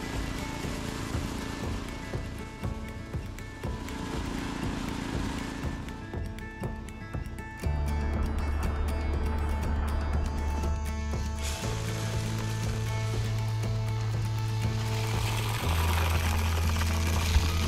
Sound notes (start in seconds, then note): 0.2 upbeat music continues; 4.5 tiller humming continues; 9.2 upbeat music continues; 14.6 seeder rumbling